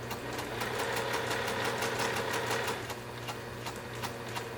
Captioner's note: sewing machine churning